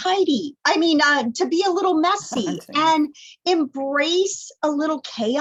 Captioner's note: laughter